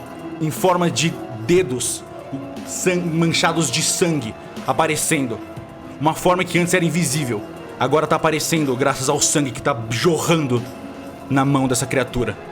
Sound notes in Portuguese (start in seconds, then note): none